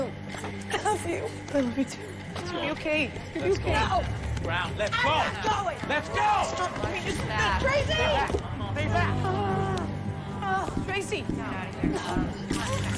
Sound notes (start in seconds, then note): 9.3 groaning & sputtering; 11.4 taser buzzing